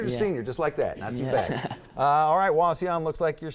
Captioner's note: laughter